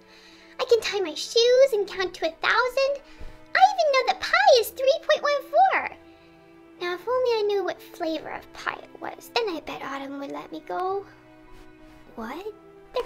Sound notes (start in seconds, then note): none